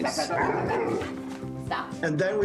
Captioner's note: growling